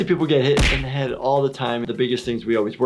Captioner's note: blow thudding